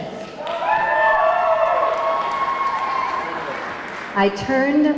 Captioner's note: audience clapping; audience clamoring